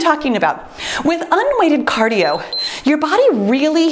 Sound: timer beeps

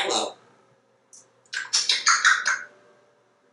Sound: smacking sounds

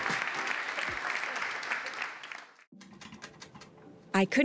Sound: audience applause

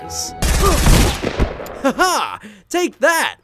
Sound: gun shots firing

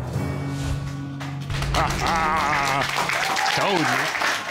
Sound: applause

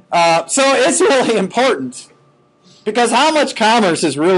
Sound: chuckling

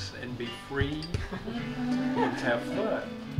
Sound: chuckling

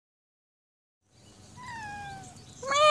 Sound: cat meows; meows

